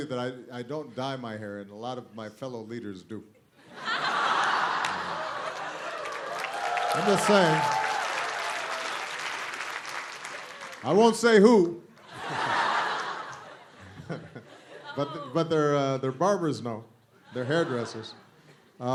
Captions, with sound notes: that I don't dye my hair, and a lot of my fellow leaders do. [LAUGHTER] I'm just saying. I won't say who, but their barbers know, their hairdressers.